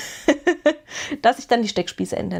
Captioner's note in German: gelächter